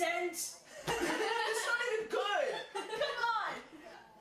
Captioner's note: laughing